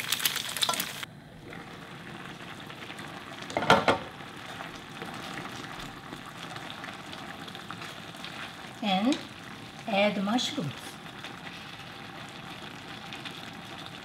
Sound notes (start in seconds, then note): 1.7 dish simmering